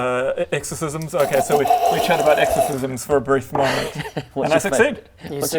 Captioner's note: kccrrggrrrggrgrgggg